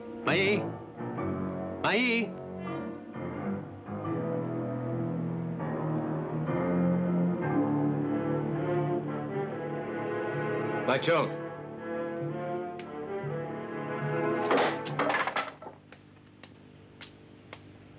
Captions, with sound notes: - Mayi, Mayi. (dramatic music) Mai Chung. (clattering)